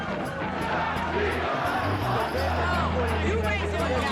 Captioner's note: crowd chanting